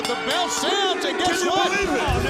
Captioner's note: bell ringing